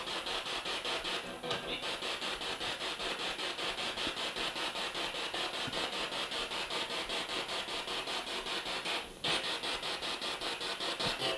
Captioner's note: sound of the Spirit Box in the background